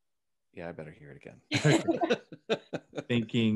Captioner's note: all laughing